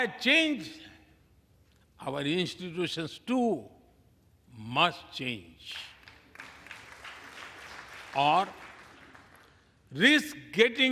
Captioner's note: applause